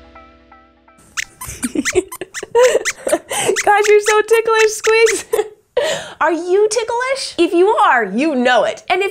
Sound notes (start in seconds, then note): 1.1 squeaks laughs